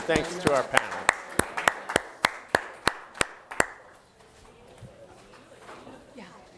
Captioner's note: applause